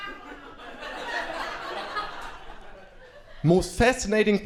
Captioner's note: crowd laughing